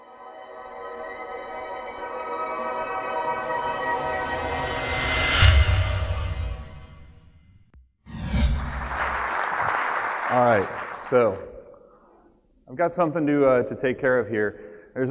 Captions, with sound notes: (soothing music) (audience applauds) - Alright so, I've got something to take care of here.